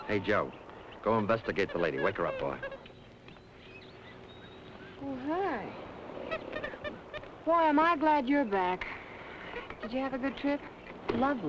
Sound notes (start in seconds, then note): 3.1 birds chirping; 6.3 Joe chattering